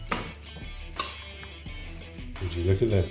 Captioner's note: spoon clinking